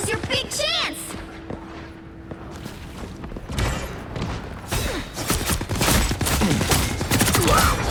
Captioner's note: gunshots